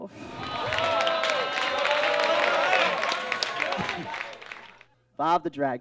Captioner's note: audience groans and claps